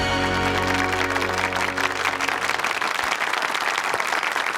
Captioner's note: audience applauds